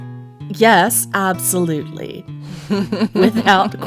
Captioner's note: laughing